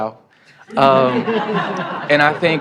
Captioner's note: laughter